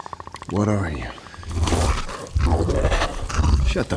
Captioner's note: Predator death rattle